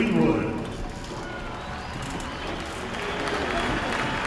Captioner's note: applause